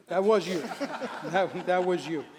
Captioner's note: laughter